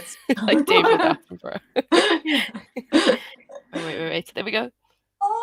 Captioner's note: laughter